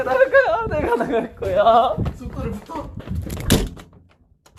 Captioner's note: shuts the door